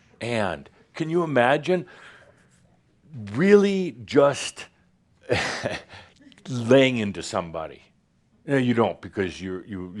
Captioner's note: expressing very angrily to them